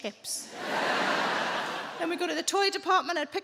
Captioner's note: audience laughing